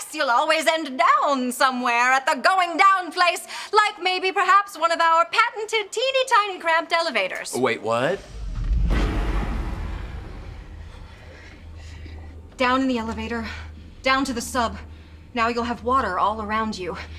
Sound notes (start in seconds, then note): 8.3 splash!